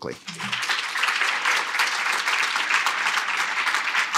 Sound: applause

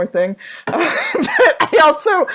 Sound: laughs

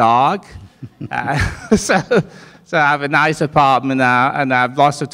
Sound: all laughing

